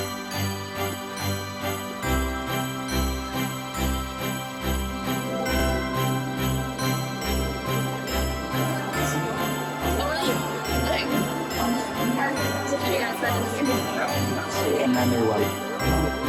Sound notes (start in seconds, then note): 0.2 christmas music; 9.8 chatter